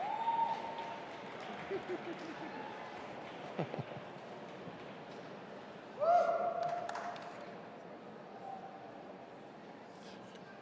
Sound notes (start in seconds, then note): 1.7 all chuckling